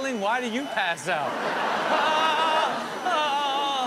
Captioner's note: audience laughing; mimics crying